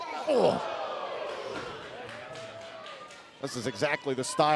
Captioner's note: crowd cheering